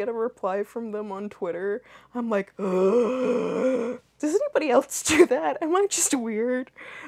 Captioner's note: inhales